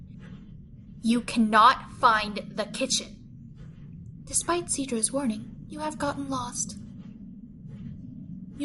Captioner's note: calmly